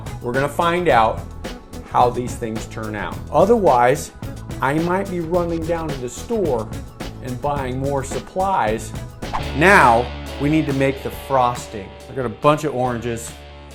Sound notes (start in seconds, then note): 9.2 whoosh; 9.6 rock music